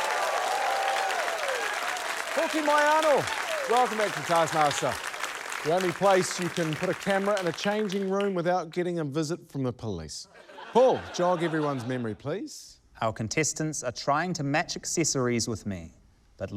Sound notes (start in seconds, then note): 0.2 cheering, applause; 10.3 laughter